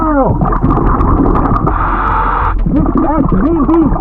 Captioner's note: oxygen bubbling in water; oxygen tank hissing